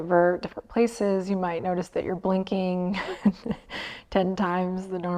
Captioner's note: chuckles